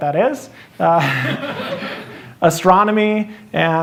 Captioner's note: laughter